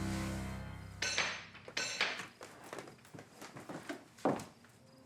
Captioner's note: ominous music; door knocker clanking